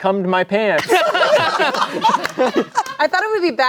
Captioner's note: everyone laughing